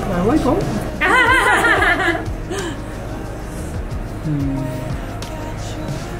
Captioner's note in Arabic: ومساعده يضحكان